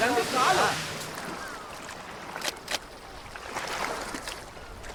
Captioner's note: water splashing